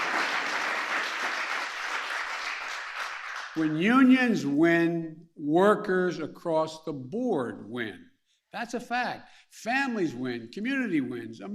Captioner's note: applause